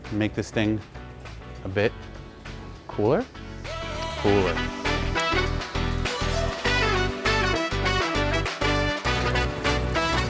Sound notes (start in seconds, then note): 4.9 upbeat music; 6.2 liquid dripping